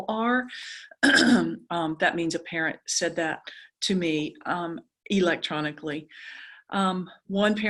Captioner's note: cough